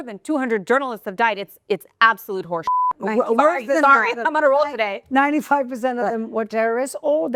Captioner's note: beep